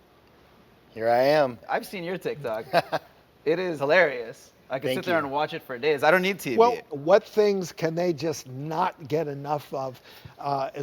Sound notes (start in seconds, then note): 2.5 laughing